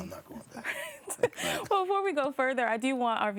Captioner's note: laughs